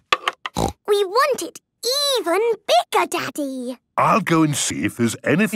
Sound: snorting

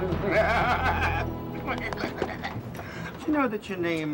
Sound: Griffin giggles

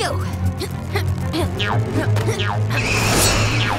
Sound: grunting

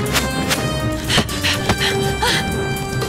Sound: panting

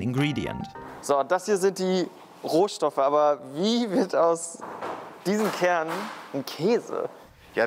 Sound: speaks German

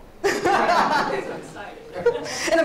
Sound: laughs

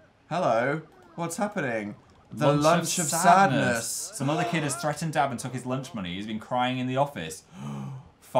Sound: gasp

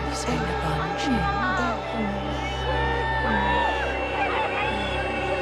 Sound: voices screaming

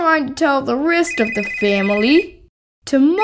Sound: phone ringing

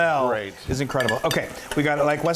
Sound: moans

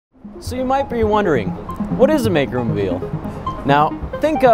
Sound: in English

